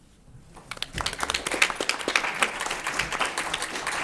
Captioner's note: applause